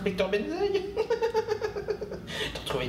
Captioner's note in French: rire aigu